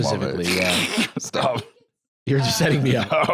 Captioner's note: laughing